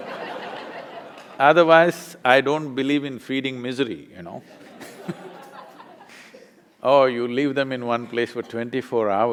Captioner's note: laughter; laughter